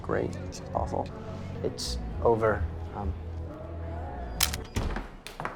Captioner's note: camera snaps